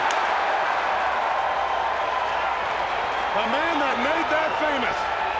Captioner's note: crowd cheering